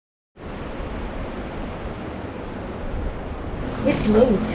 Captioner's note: wind humming